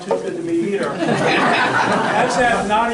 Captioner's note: audience laughter